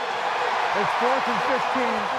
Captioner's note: cheering